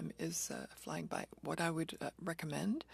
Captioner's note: speaking French